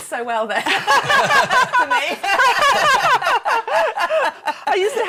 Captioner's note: laughing